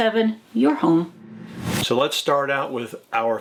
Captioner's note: logo whooshing